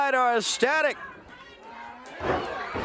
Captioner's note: crowd cheering